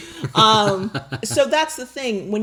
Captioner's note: laughing